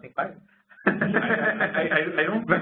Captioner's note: laughter